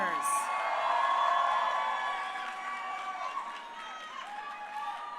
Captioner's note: crowd cheering